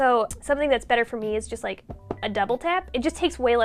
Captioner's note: taps couch